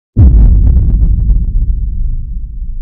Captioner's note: cinematic boom